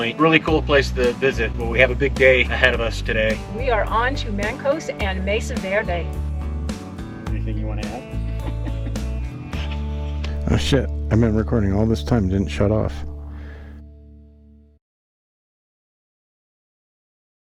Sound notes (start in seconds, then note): 8.2 laughter